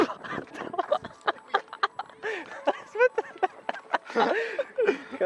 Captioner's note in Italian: risate